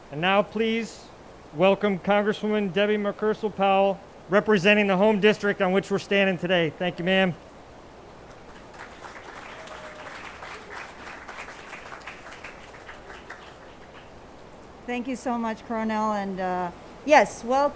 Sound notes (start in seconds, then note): 8.2 attendees applauding